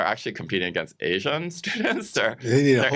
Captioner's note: chuckles